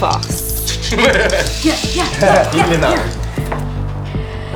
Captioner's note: vocalize fire sounds